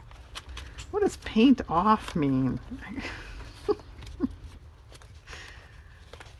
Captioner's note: laughs